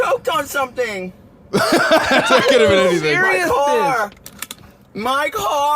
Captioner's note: laughs; gasps